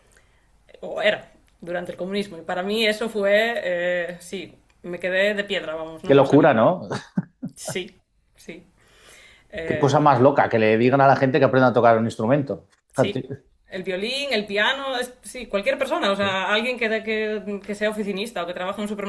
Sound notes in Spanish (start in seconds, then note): 6.8 risas